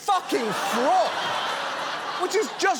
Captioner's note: audience laughs